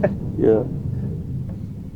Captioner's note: laughs